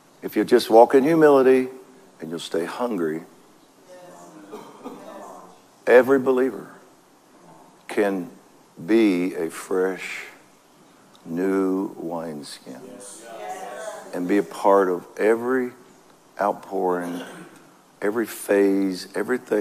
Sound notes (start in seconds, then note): 12.8 congregation cheers